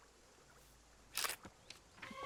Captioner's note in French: cliquetis de l'obturateur de l'appareil photo